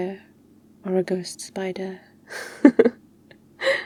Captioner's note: laughs